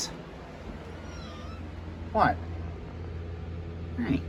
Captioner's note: meows